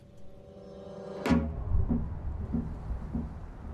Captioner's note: wind blowing